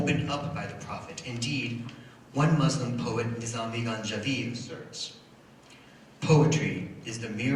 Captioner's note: foreign language